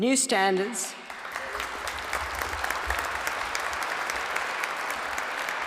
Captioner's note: applause